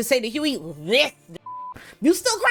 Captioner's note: beep